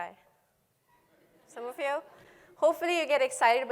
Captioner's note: laughter